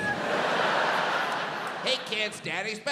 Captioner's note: audience laughs